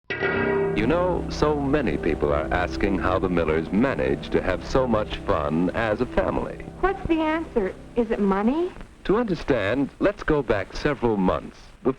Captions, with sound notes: - [Voiceover] You know, so many people are asking how the Millers manage to have so much fun as a family. - [Voiceover] What's the answer? Is it money? - [Voiceover] To understand, let's go back several months,